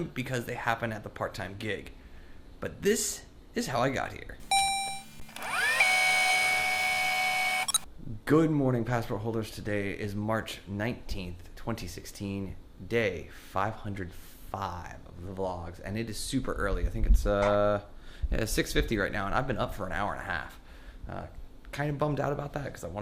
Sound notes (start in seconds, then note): 4.4 tape rewinding; 4.5 robotic ding